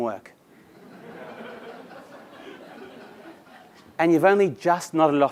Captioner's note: laugh